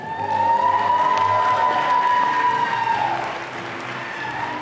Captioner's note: audience applauding